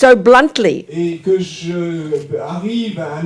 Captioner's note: speaking in French